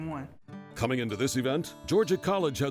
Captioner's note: voiceover